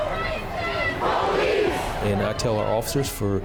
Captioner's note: crowd